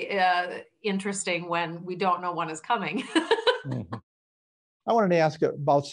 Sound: laughing

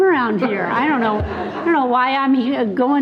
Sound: people laughing

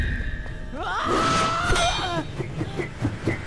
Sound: grunting

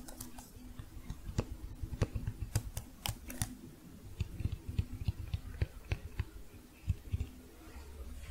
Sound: tapping continues; duller tapping

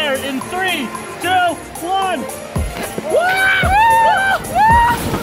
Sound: both scream and laugh

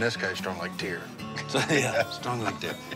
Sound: laughs

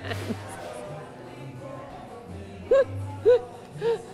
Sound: laughs

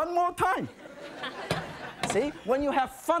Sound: audience laughing

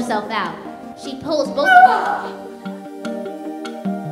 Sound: grunts loudly

